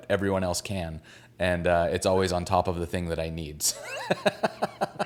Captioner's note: laughs